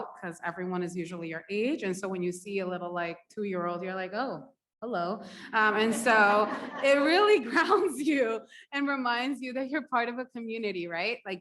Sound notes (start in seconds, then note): 5.7 audience laughs; 5.8 laughs